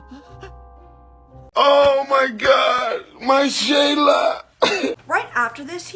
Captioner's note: sobbing; Miya gasps